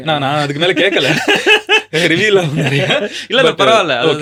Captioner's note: group laughter